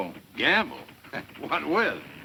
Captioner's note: chuckles